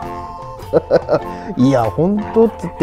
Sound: laughs

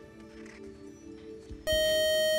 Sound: time's-up buzzer

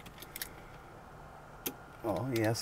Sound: ignition switch clicks

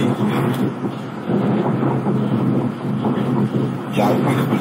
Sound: car noise

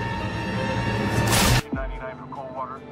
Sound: web Thwip

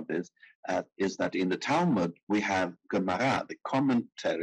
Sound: speaking in foreign language

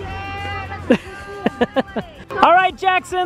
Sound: laughs

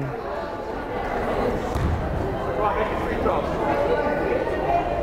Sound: crowd chattering

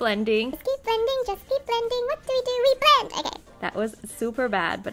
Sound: high pitched voice

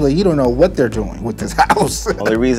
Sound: laughter

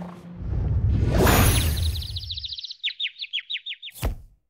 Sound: birds chirp

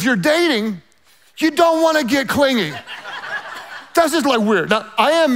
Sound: laughing loudly

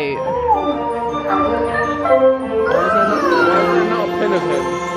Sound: monkey chatters

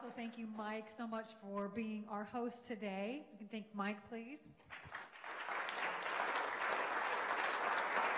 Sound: clapping

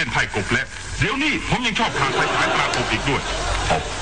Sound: laughing

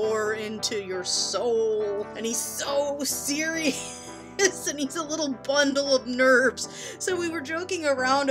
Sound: giggling

